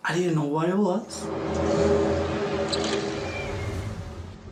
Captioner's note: groaning sound